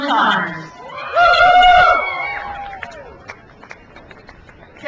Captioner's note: crowd cheers